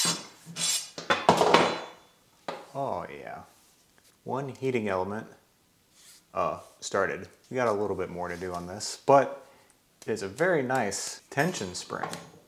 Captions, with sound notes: (table thuds) Oh, yeah. One heating element started. We got a little bit more to do on this, but it's a very nice tension spring.